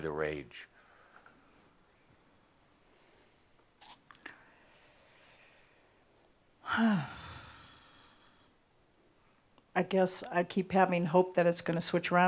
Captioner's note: pausing slightly and then sighing